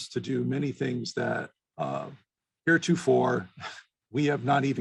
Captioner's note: chuckles